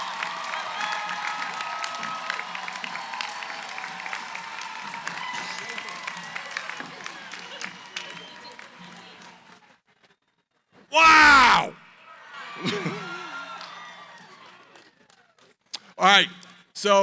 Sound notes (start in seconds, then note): 7.6 background conversations; 12.6 cheering